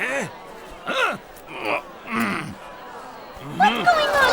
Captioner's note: soldiers grunting